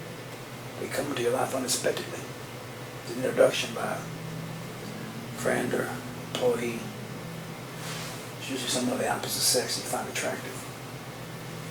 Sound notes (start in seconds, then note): none